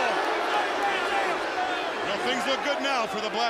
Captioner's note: crowd chatter